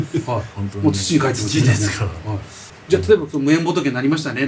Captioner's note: laughs